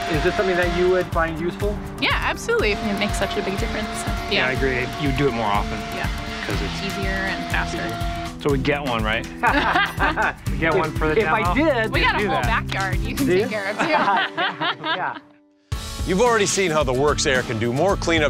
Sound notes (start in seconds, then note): 9.4 laughter; 13.5 laughs loudly